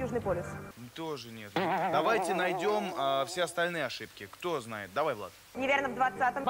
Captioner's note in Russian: звук ошибки